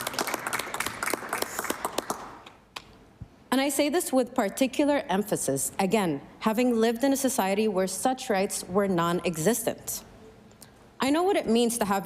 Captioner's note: applause